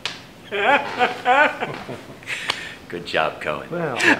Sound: laughs

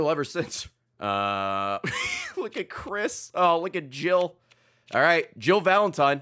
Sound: laughs

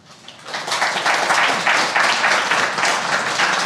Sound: applause

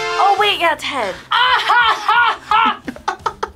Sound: laughs; React laughs

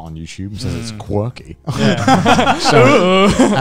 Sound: men laughing

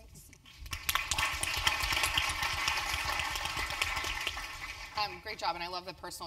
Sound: applause

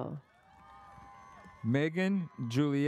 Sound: audience cheers

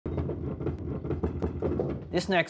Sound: potatoes thud

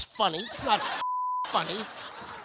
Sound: beep

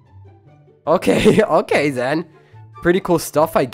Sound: laughs

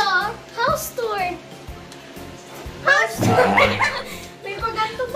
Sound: laugh

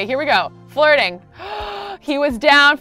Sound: gasping

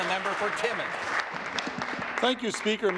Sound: applause

